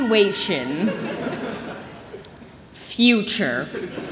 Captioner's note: laughter; laughter